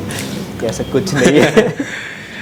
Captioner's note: laughs